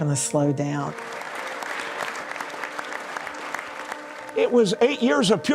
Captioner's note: applause